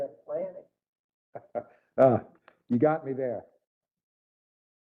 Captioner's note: laugh